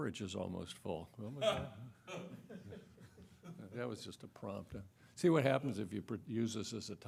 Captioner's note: laughter